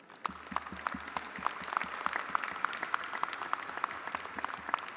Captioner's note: audience applauding